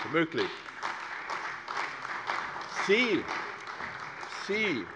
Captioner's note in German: Beifall bei der CDU